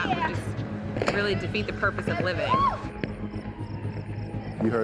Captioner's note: loud bang, siren blaring